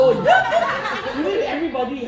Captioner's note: laughter